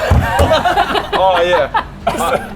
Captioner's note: snickering